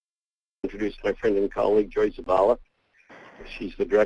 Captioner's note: voiceover